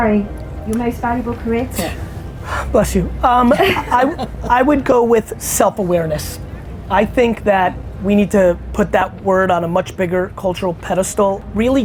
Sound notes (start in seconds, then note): 3.4 laughter